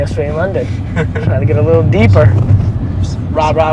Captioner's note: chuckles